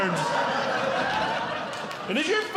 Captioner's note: audience Laughing